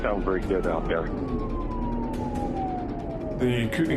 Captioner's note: siren wailing